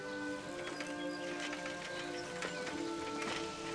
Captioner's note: birds chirping